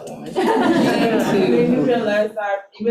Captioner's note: attendees laughing